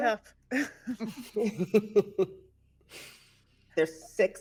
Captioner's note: person laughing